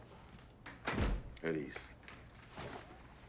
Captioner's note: door closes